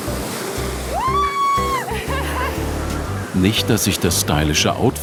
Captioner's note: scream